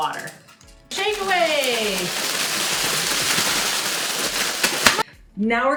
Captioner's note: plastic bags rustling